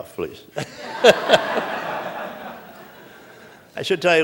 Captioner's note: laughter